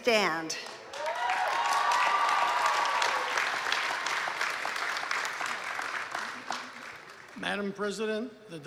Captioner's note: applause